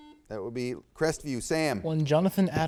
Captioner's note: buzzer beeps